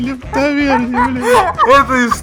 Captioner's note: laUgH